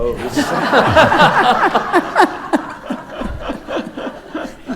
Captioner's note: audience laughs